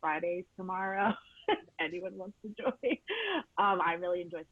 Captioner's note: laughing